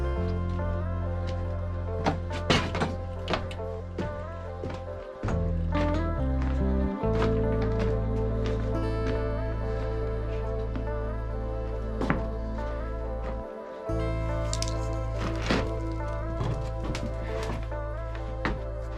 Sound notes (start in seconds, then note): 2.1 shuffling; 6.2 gentle music